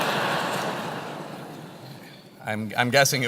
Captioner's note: laugh